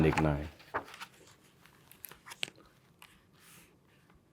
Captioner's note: pages rustling